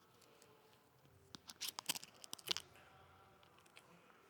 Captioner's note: plastic crinkles